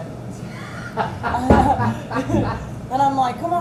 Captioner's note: everyone laughing